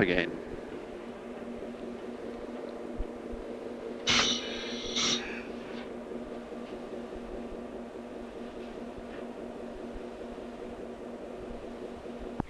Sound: sound of the train idling

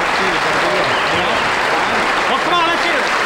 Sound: audience applauds

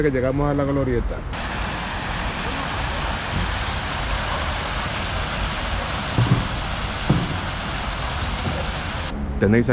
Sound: sound of water from the fountain

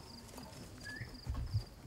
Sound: whistle

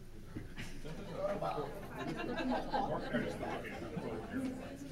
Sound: laughing

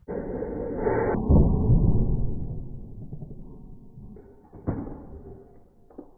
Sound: A thud that's probably just as good

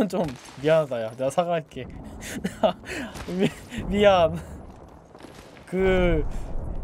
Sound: laughs

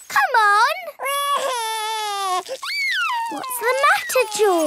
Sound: crying

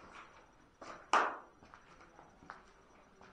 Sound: knock

